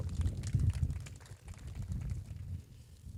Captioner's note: applause